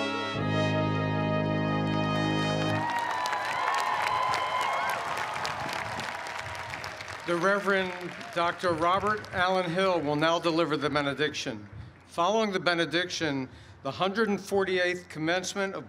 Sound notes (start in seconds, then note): 2.5 applause